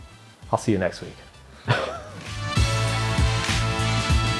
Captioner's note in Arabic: يضحك